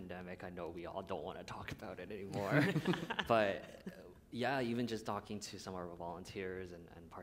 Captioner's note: laughter